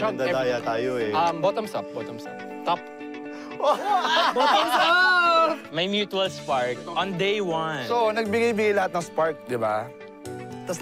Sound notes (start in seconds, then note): 3.6 laughing